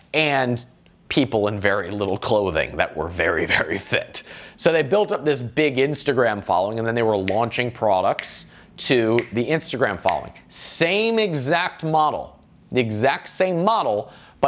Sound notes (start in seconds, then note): 9.1 snapping fingers